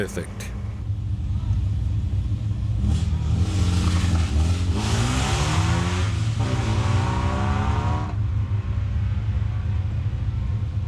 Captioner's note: engine revving